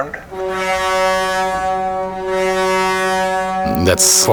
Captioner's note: vehicle toots